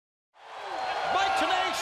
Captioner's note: crowd cheering